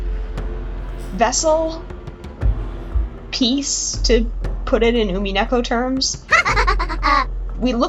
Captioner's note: Beatrice ahahahaha